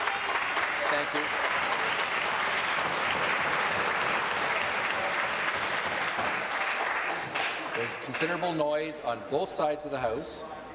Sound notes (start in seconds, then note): 5.4 some applause